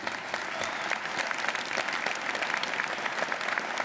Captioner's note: audience applauding